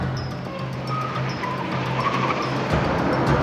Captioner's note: tires screeching